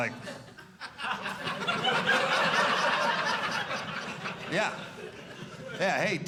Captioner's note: audience laughing